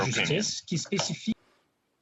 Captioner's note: speaking in French